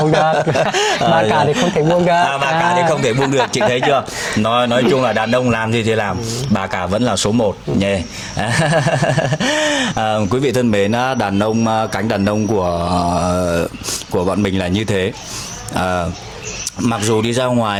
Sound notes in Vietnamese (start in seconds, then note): 0.0 tiếng cười; 8.3 tiếng cười